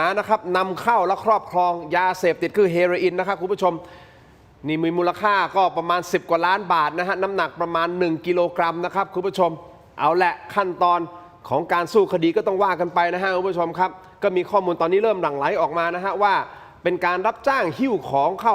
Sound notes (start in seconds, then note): none